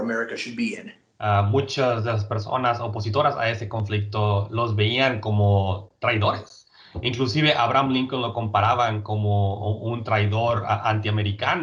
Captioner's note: speaking in Spanish